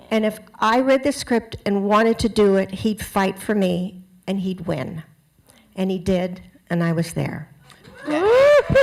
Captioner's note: cheering